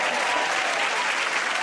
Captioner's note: cheers and applause